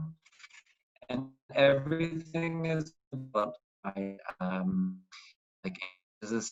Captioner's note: audio scrambles